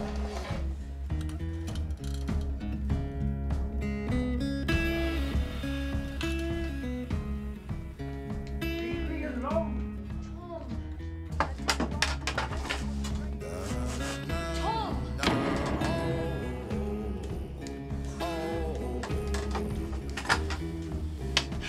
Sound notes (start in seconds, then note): 15.2 crash; 16.7 blues